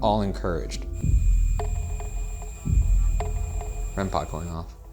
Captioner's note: REM-Pod beeping